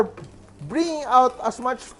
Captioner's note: sizzle